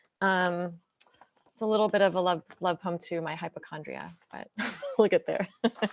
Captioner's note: laughs